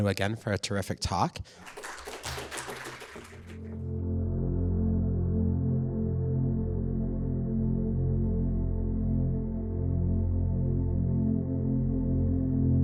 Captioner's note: applause